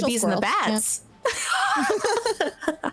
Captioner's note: laughing